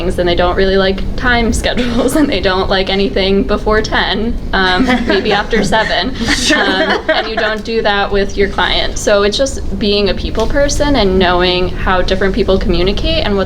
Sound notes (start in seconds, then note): 4.6 audience laughs; 6.5 panelists laughing